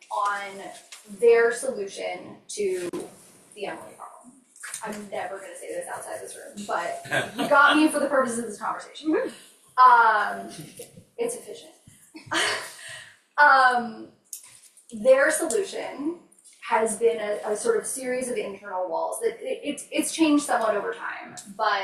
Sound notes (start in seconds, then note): 10.5 laughs